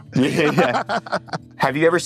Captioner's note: all laughing